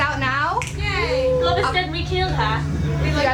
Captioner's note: cheering; in an accent